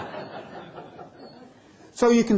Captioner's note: laughter